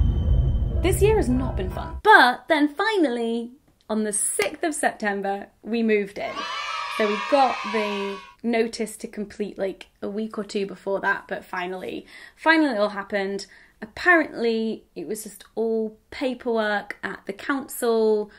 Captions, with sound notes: This year has not been fun, but then finally, on the 6th September we moved in. (cheering) So we got the notice to complete a week or two before that. But finally, finally, it all happened. Apparently it was just all paperwork at the council,